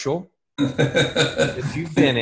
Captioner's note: laughs